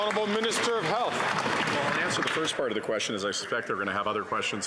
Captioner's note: some Applause